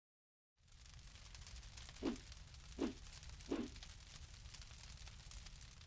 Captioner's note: fire burning